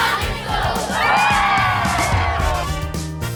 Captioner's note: cheering